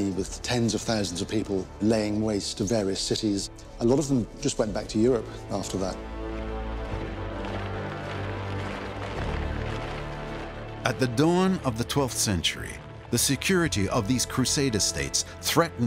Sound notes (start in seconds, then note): 6.3 rumble of marching feet